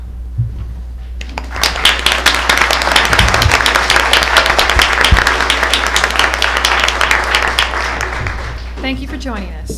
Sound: applause

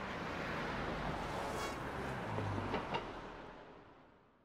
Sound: train passing

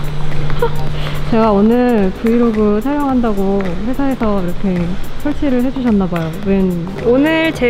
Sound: haha

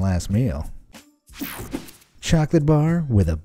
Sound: image whooshing

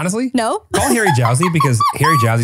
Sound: laughs

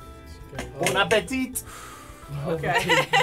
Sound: exhaling sharply; laughter

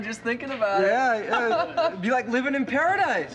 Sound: laughing

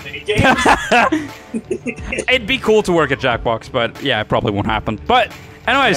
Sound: laughter

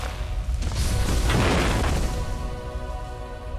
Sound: crash

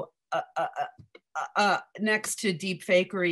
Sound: stammers

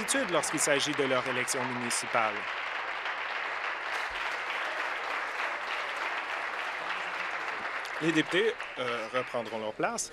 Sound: applause

